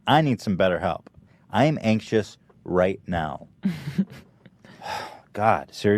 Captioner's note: sighs